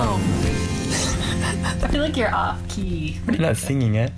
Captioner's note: chuckling